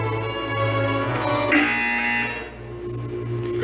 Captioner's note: classical music plays; buzzer interrupts the music